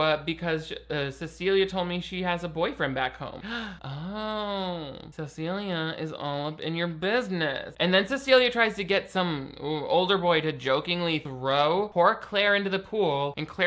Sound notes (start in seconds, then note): 3.4 gasps